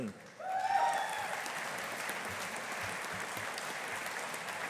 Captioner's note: audience applauding